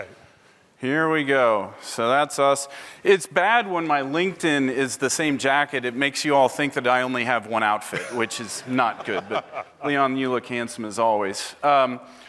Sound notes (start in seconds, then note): 7.9 laughter